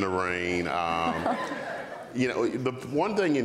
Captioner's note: audience laughs